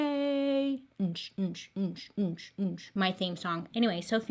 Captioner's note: imitates bass beats